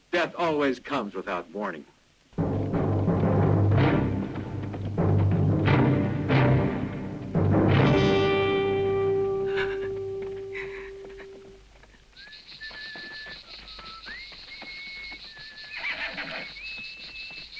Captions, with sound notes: - Death always comes without warning. (dramatic music) (Carol crying) (Lucky whistling) (insects chirring)